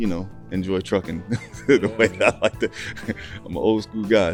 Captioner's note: laughing loudly